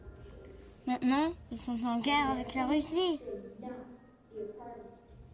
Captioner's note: speaks in foreign language